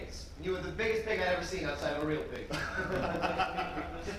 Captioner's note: laughs